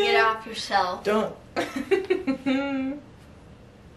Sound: laughs

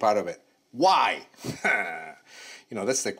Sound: laughs

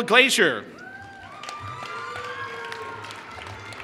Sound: applause

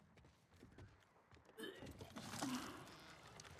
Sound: puking

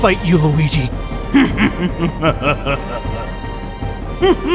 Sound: evil laughter

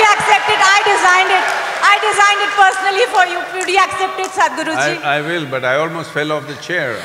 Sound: cheering/Applause

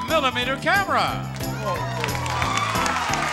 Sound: audience applauds

